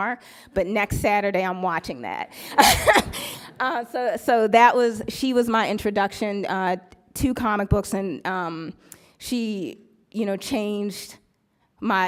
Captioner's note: laughs